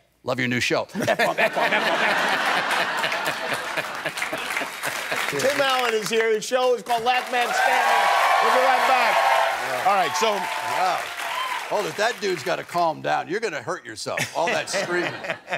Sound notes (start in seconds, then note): 0.9 laughter; 8.0 cheers and applause